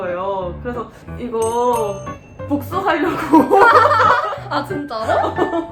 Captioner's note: hahhahaha